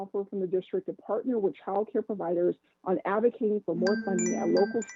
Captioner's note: chime